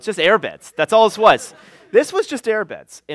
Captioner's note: laughter